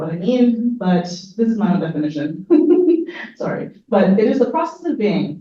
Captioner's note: laughs